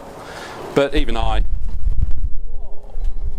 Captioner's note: the wind knocks the camera